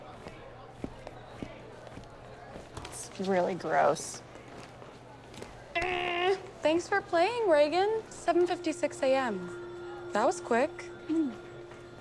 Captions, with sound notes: - That's really gross. - [imitates buzzer] Thanks for playing, Regan. 7:56 a.m. That was quick. - Hmm.